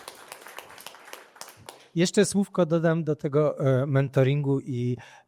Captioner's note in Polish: Aplauz